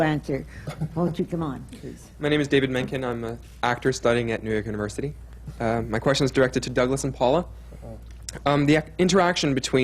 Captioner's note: laughter